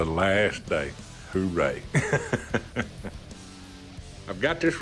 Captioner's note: laughs